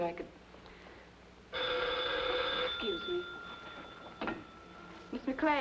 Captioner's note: phone ringing